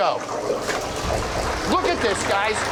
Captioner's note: fryer gurgling